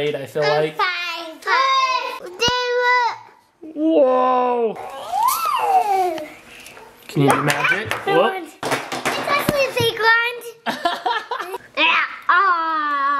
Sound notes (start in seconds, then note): 4.9 yelling; 10.7 laughing